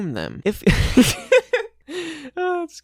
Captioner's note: laughs uncontrollably